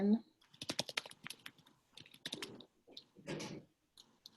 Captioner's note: person typing